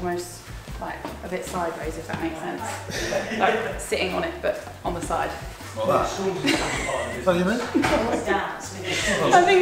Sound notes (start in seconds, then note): 6.4 laughs